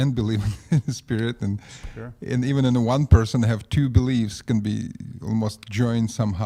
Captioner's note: laughs